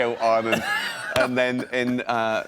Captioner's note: laughs